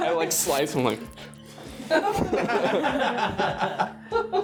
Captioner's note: laughing